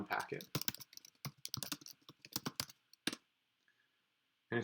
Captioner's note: keyboard clicking